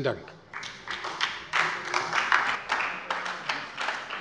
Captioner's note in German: Beifall bei der SPD